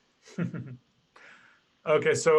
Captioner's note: laughs